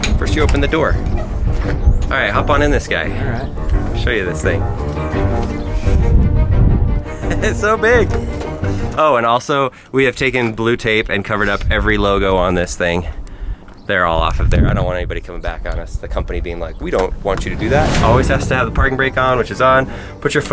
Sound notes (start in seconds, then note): 5.7 dramatic orchestral music; 7.5 laughs